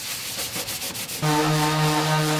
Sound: sanding and machine whirring

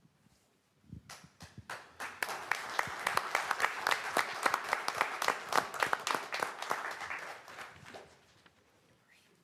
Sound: applause

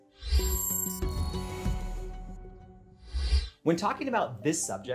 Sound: gentle music; air swooshes

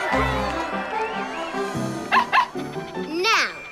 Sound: barking

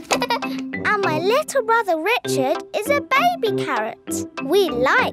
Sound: giggles

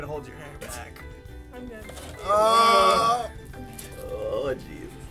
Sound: groaning; spitting

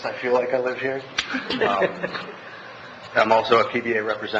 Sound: laughs

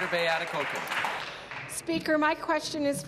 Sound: applause

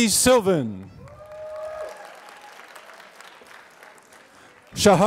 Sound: applause

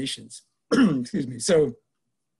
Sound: coughs

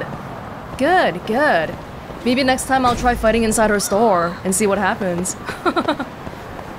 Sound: chuckles

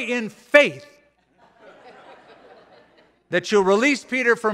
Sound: laughter

